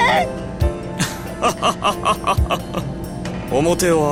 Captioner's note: laugh